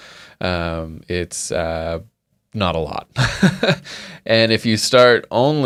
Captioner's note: laughing